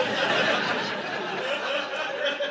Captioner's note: audience laughing